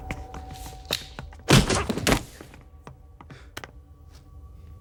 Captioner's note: stick whacks